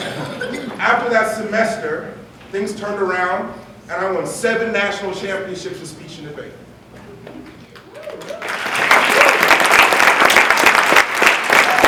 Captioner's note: laughter; applause